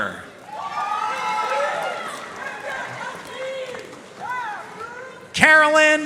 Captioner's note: audience cheering and applauding